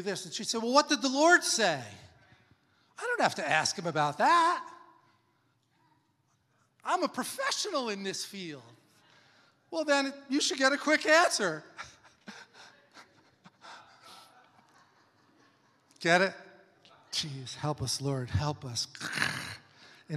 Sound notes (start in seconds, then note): 11.7 laughs; 13.6 congregation laughs